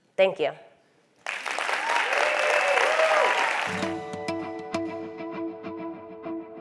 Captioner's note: applause